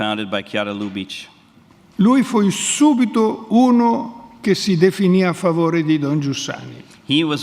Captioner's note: speaks in Italian